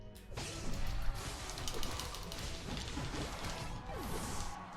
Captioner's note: fighting sounds